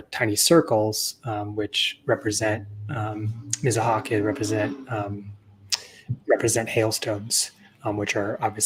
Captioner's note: Speaking Myaamian